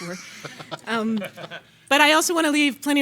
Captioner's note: panelists laughing